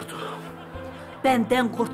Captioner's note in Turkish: Gülme efekti